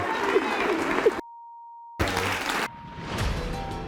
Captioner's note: beep